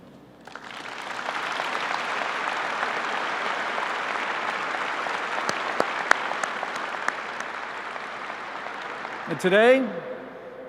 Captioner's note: applause